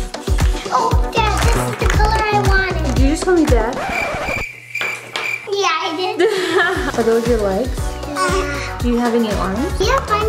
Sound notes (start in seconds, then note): 3.7 record screeching; 6.2 laughs